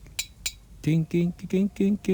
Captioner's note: metal clinks